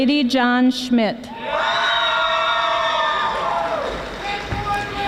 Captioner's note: audience applauding